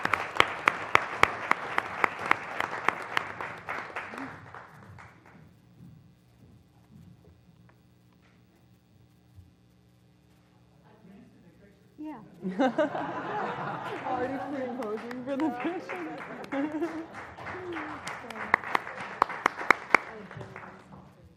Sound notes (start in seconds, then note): 0.0 applause; 12.4 laugh; 15.7 applause